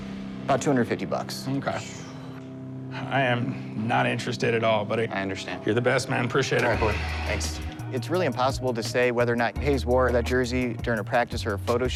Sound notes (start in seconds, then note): 1.8 exhales